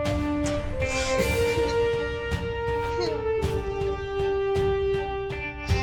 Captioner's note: sniffles